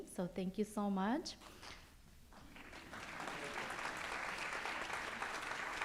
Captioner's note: audience applauds